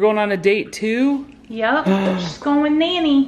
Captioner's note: gasps